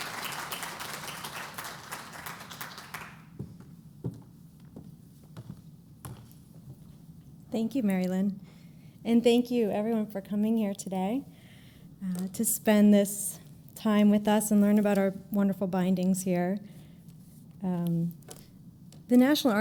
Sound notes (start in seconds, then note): 0.0 applause